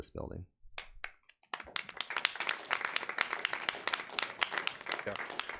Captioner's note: audience applauding